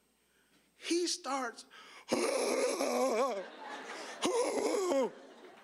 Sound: fake sobbing; audience laughing

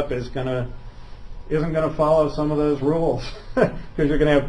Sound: laughs

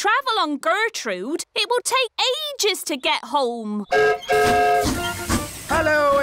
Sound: whistle blows

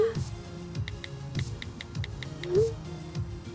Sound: phone clicking

